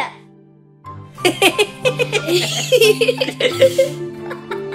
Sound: monkeys giggle

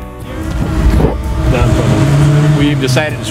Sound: car revving

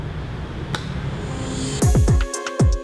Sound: slow alternative music; hands clapping; slow alternative music

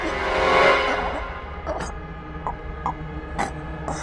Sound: suspenseful music; gasping for air

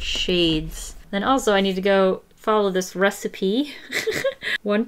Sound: laughs

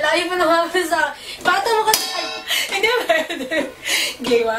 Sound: laughs

